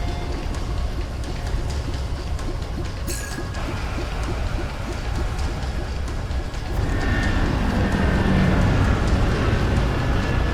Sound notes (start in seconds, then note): 0.2 dramatic music; 2.3 machine beeping